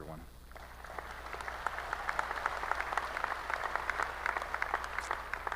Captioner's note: applause